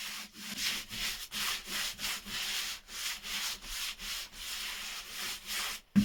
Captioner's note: brushing intensifies